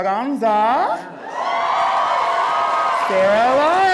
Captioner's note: crowd cheering